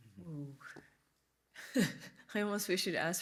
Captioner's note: chuckles